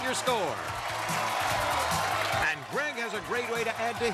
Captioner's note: cheers and applause